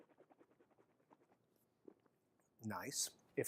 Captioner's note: swallowing sound